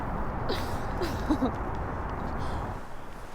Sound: laughing sound continued

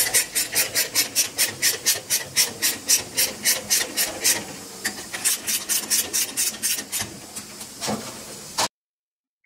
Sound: ratchet noises

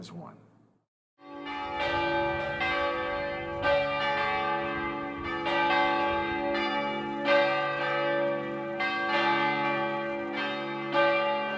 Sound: tower bells ring out

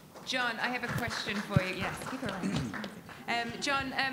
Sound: audience applauding

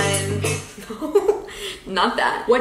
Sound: chuckles

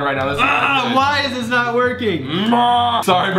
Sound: groans

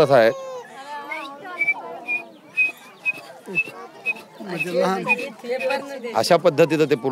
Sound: whistles

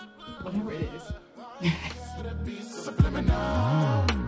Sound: chuckles; R&B music plays

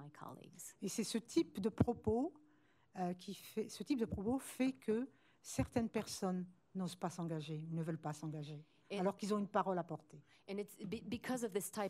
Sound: speaking french

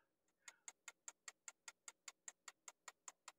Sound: clock ticking

